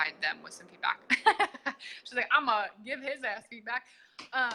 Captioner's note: laughs